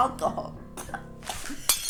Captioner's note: cough